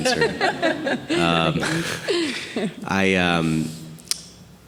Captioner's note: group laughing